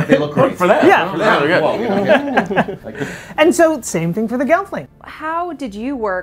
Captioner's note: laughing